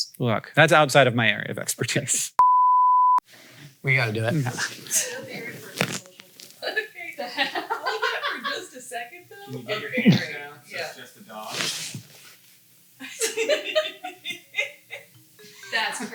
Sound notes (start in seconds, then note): 2.4 sound beeping; 13.5 crew laughing